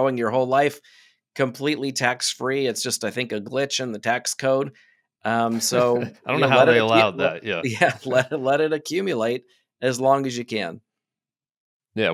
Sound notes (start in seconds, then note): 7.8 both laugh